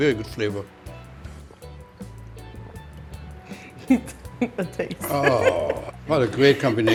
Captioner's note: gulps beer; laughs